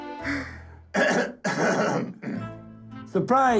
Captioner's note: clears throat